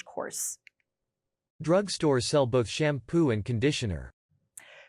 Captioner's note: adult male voice